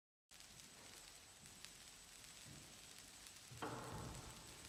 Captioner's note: static pops